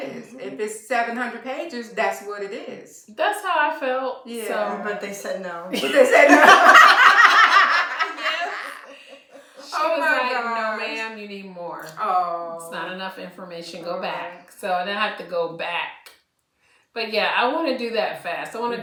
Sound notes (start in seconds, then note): 5.7 laughter